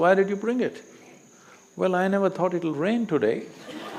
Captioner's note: laughter